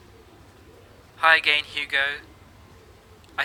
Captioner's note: augusto, on voicemail recording